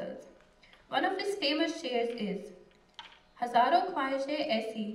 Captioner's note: non-english speech